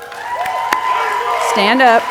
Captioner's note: audience cheering and applauding